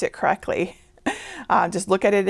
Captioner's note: laughing